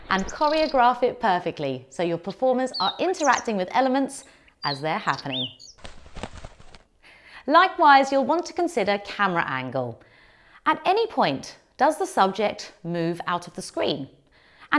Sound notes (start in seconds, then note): 4.5 bird chirping; 5.6 wings flapping